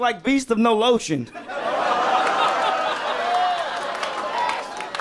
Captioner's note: people laughing